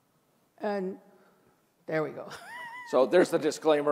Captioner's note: laughs